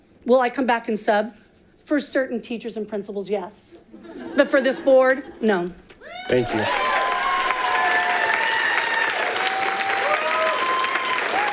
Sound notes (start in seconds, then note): 6.0 audience applauding